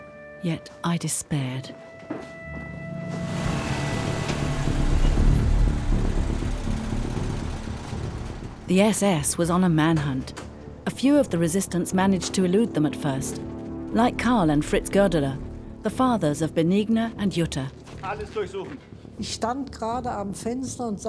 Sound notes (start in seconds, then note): 3.1 engine revs; 3.9 dramatic music; 18.0 speaks in foreign language